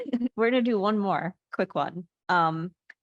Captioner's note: laughing